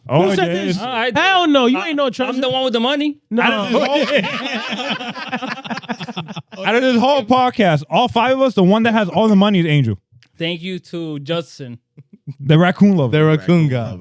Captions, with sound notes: Oh, yeah. Hell no, you ain't no treasurer. I'm the one with the money. No. (Laughing) Out of this whole podcast, all five of us, the one that has all the money is Angel. Thank you to Justin. The raccoon lover. The raccoon lover.